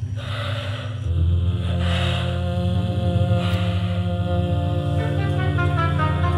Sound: distorted vocal sounds and breathing intensify

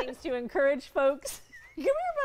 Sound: laughter

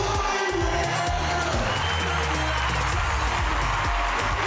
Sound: crowd cheering

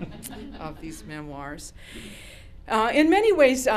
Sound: laughter

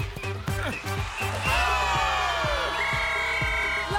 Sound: crowd cheering; whistling

